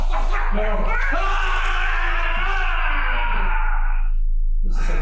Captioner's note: man howling